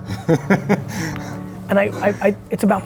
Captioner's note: laughing